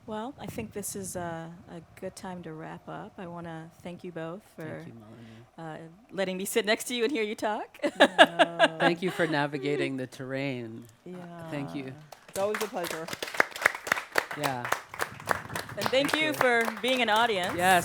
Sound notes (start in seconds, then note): 7.8 laughs; 14.6 audience clapping